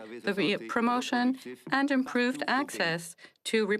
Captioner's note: speaking French